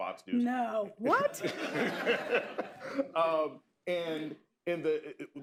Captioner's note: laughter